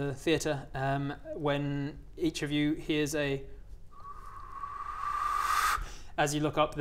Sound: whooshing whistle

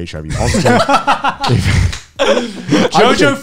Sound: men laughing

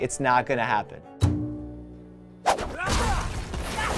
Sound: swooshing; grunting, smashing

